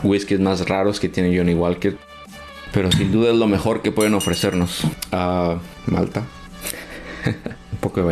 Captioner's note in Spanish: risas